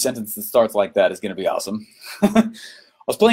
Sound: laughs

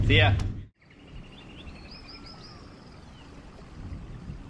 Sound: birds chirping

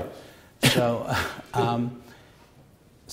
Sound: chuckles

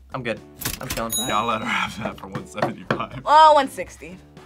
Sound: laughs

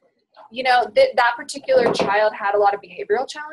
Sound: voiceover

